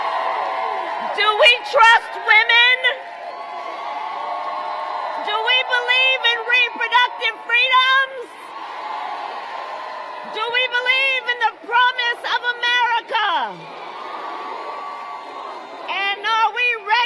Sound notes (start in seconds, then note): 3.3 applause; 7.0 applause; 13.4 applause